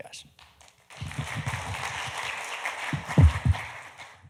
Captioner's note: audience applauding